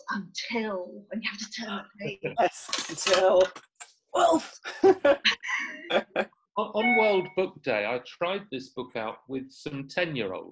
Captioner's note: laughter